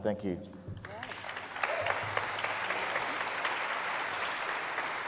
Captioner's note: audience applauds